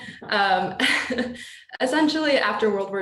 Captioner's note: laughing